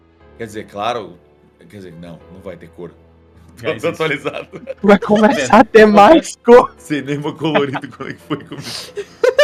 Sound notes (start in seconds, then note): 3.8 laughs; 7.4 laughs